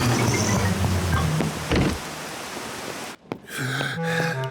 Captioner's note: breathes heavily